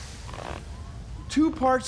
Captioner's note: <i> squeaking</i>